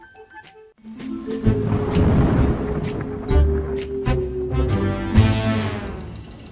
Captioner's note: playful mysterious music; thunder crashing